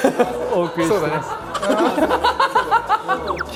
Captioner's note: hahahaha